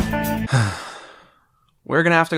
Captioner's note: sigh